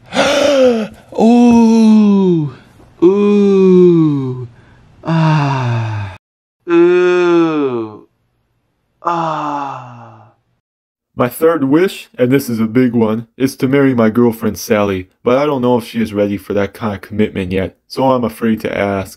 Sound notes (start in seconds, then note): 0.0 speaking; 7.8 in pain